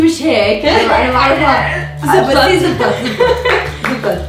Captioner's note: laughs